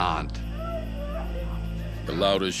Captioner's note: woman crying